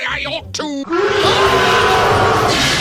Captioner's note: pure rage and hatred of all living things in sound form